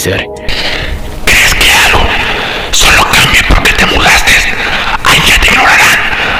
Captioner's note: whispering